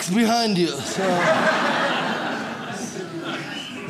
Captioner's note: audience laughs